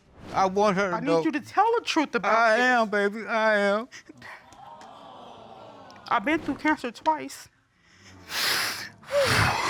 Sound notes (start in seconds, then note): 4.5 audience exclaiming; 8.2 exhales, stifling sobs